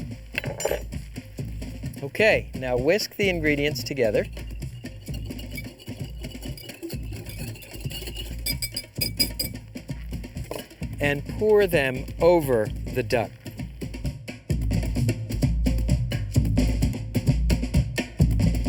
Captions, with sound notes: Okay. Now whisk the ingredients together. (whisker clanks) And pour them over the duck.